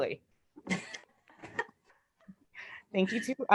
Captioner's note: laughs